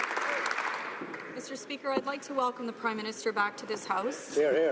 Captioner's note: some Applause